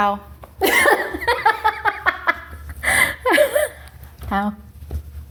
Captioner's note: laughs